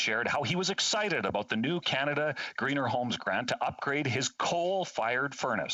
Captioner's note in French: voix de l'interprète